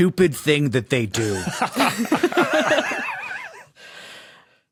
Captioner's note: group laughing